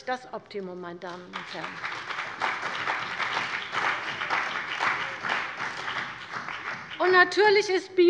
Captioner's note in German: Beifall bei der CDU und dem BÜNDNIS 90/DIE GRÜNEN